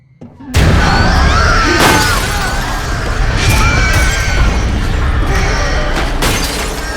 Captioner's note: demon roaring; Mattie screaming; glass shattering